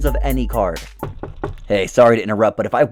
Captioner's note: knocking